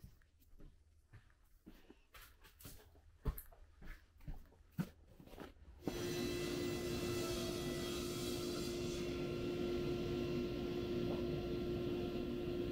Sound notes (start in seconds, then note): 5.8 saw buzzing